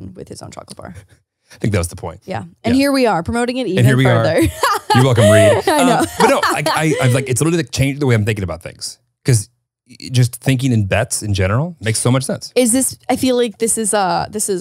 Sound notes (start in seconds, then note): 3.8 laughing